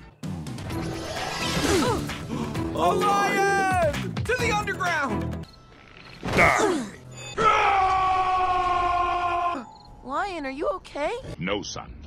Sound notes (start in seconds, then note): 7.3 Shrek roar